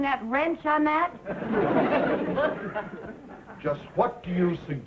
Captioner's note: audience laughing